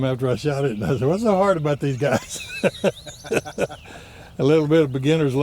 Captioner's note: laughs